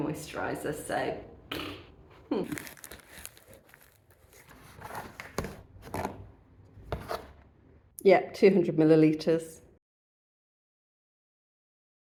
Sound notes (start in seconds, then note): 1.5 raspberry; 2.4 tape tearing open